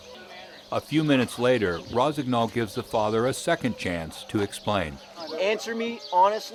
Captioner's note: voiceover